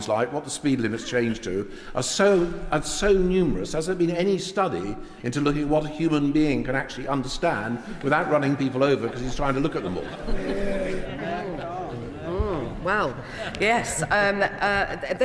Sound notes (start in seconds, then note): 10.6 laughter and chatter from crowd